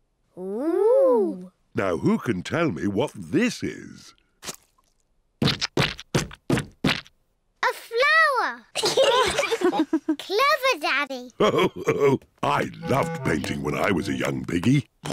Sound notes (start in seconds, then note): 8.8 giggles; 8.8 all laugh